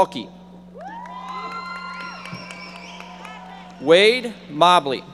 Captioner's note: audience members applauding